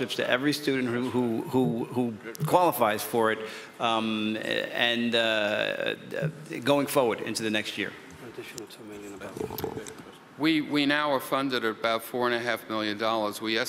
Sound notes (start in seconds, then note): 8.7 people chattering